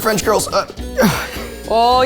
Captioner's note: groans